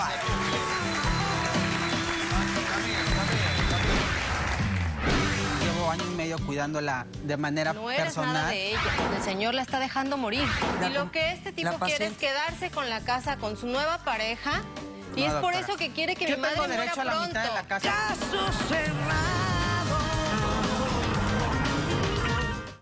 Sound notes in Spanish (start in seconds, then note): 3.0 Aplausos